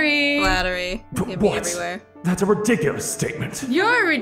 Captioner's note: game audio